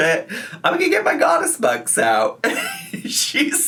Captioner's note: laughs